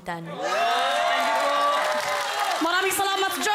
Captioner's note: loud cheering